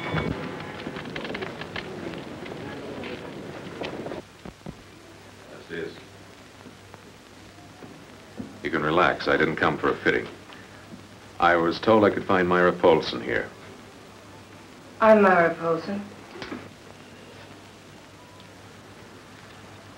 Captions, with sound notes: - (speaks in foreign language) You can relax, I didn't come for a fitting. I was told I could find Myra Polsen here. - I'm Myra Polsen.